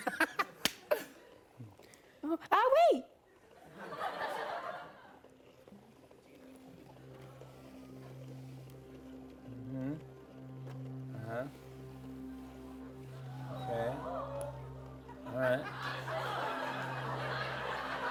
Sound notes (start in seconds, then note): 0.1 laughs; 3.6 laughter; 13.1 audience gasps; 14.9 audience laughs